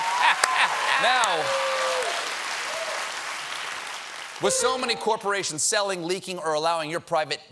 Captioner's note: applause